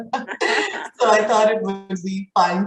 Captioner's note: both laughing